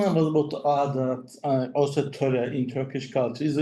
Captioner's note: speaks in foreign language